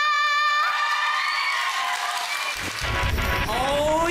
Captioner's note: audience cheering